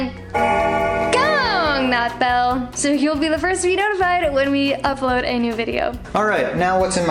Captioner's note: bell Ringing